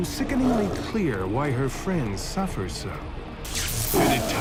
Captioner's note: electricity crackles